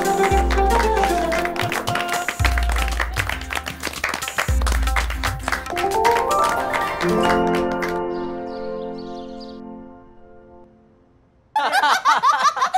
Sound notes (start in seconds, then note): 8.0 birds chirping; 11.5 laughter